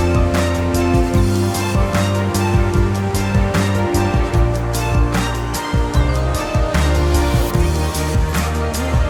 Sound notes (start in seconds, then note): 0.9 birds calling